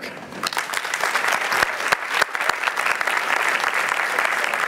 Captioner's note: applause